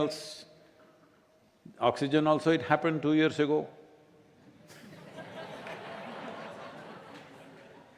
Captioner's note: laughter